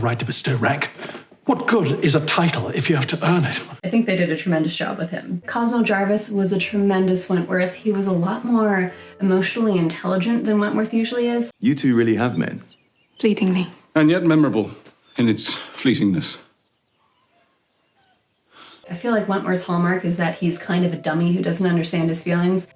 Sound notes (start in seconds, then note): 18.6 sigh after a long pause